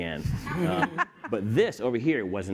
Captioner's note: laughs